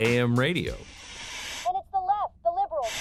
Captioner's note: radio tuning noises